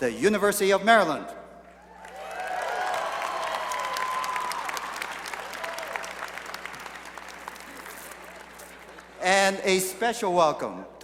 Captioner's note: cheering and applause